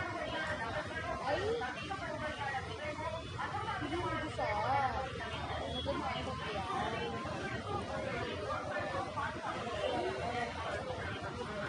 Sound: audio file being played

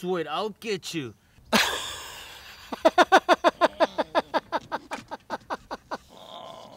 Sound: laughing

